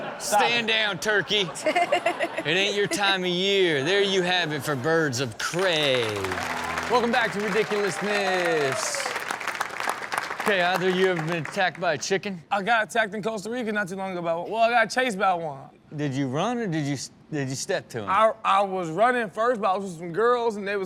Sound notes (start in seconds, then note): 0.0 audience laughs; 5.4 audience applauds; 8.5 audience cheers